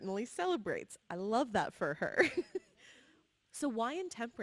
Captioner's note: laughs